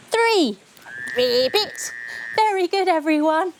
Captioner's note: mimicking the croaking of a frog